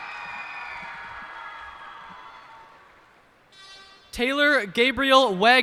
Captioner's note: cheers and applause